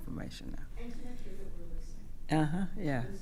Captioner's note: speaking quietly